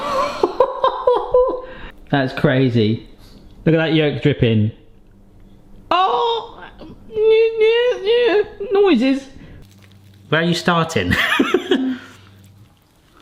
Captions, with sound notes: (laughs) That's crazy. Look at that yolk dripping. Oh, (whimpers) noises. Where are you starting? (laughs)